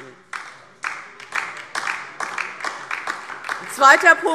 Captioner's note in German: Beifall DIE LINKE